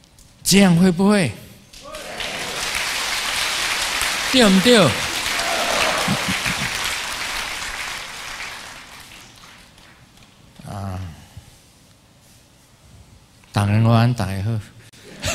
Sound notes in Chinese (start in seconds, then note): 10.4 台語; 14.7 台語